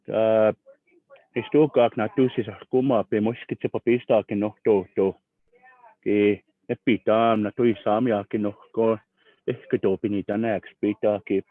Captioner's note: Speaking Blackfeet